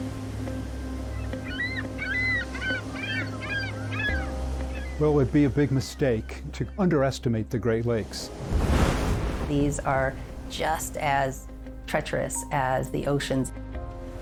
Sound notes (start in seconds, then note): 1.1 ring-billed gull makes high-pitched squeals; 8.0 waves blast lighthouse